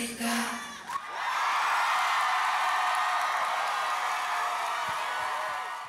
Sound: applause

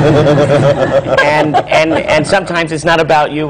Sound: laughter

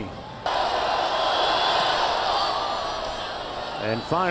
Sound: cheering and clapping

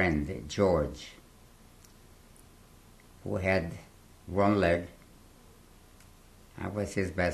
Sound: pauses for 3 seconds

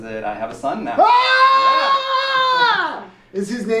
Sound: screams

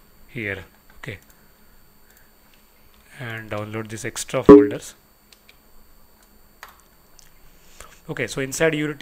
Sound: deletion system generated sound

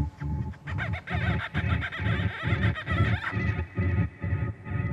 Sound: bird calling

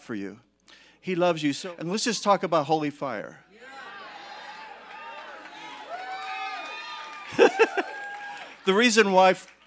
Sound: congregation cheering

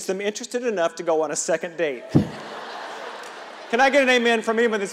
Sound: audience laughing

